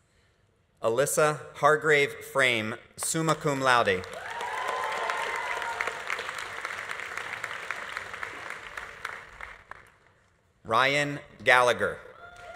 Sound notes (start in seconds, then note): 4.0 audience applauding; 4.0 audience cheering